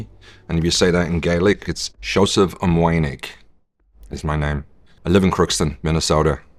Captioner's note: speaks Gaelic